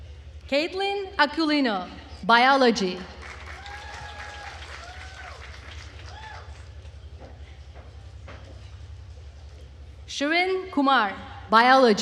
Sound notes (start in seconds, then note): 3.1 attendees cheering and applauding